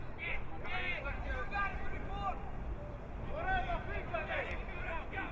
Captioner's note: crowd muttering